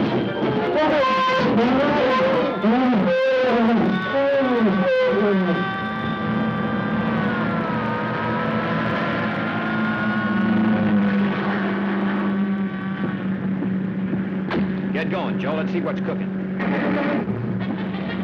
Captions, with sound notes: [elephants yelling] [siren] [cars rushing] Get going, Joe, let's see what's cooking.